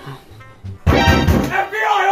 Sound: knock knock knock

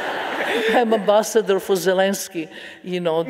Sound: audience laughing

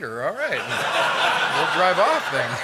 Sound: laughter

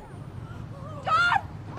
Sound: spectators murmur

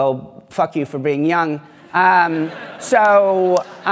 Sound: laughter

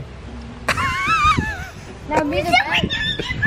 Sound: laughing

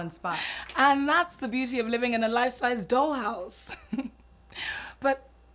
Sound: Efosa laughs

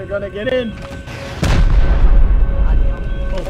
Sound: boom

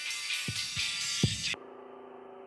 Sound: music continues faintly; heartbeat starts up again; motor buzzing

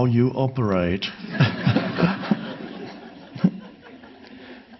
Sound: audience laughing

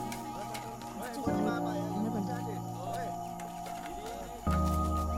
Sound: Malay Language

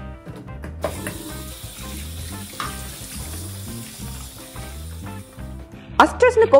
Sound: noise from pouring water can be heard

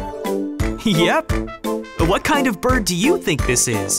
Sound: none

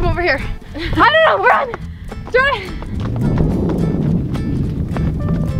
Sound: wind noise

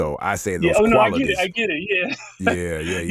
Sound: laughing

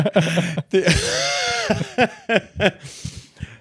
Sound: laughing

